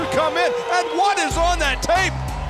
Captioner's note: wolf howling